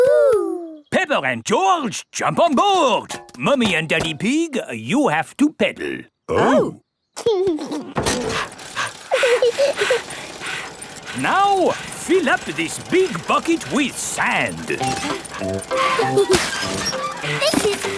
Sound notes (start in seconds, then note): 7.3 chuckles; 8.2 mummy pig panting; 8.2 daddy pig panting; 9.0 peppa chuckles; 15.7 mummy and daddy pig panting; 15.7 peppa and george laughing